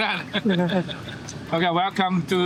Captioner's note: laughing